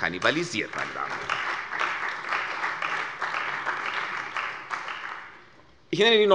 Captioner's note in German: Beifall bei der CDU und dem BÜNDNIS 90/DIE GRÜNEN